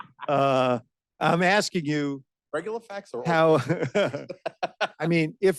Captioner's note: laughter